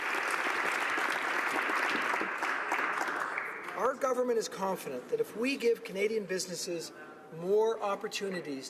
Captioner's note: applause